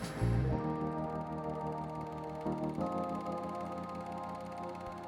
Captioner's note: reel clacking